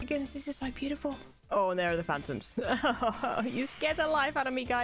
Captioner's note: nervous laugh